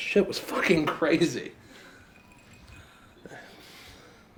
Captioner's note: sighing